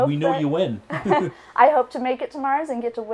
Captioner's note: laughs